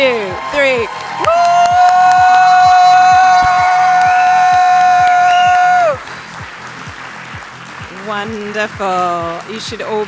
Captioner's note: applause